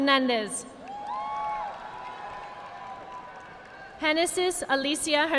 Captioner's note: audience clapping